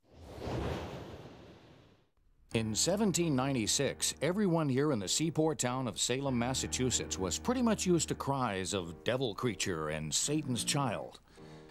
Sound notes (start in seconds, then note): 2.2 voiceover